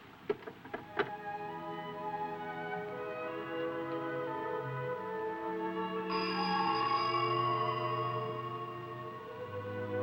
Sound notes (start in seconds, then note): 0.8 slow somber music; 1.0 phone thudding; 6.9 telephone ringing